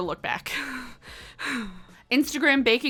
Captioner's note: exhales